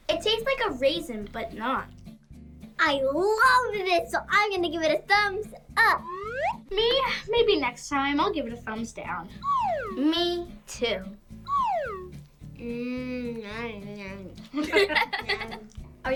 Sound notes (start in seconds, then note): 11.8 moaning; 14.5 laughs